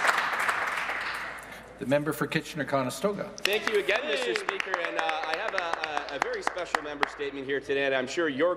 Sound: applause

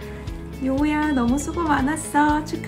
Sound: non-english speech

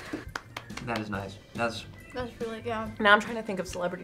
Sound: claps

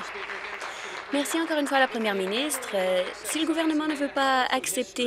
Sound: applause

